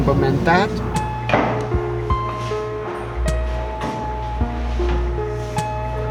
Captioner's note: sound of slow steps